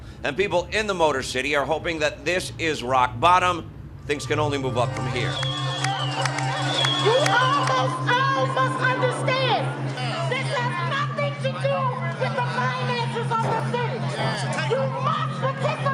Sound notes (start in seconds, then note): 5.3 cheering